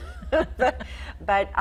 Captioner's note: laughing